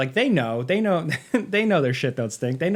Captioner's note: chuckles